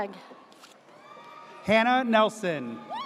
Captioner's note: audience cheers